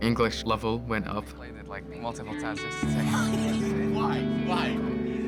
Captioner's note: indistinct chatter, laughter